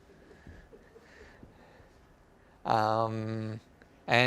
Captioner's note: laughter